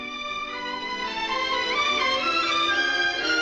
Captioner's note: none